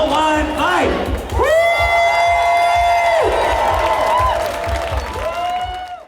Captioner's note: cheers